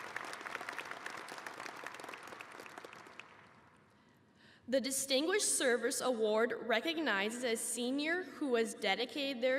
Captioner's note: applause